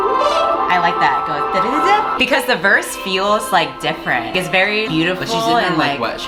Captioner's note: imitates beat